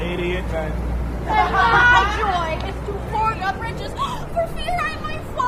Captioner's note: laughter